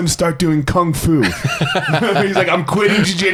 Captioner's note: laughs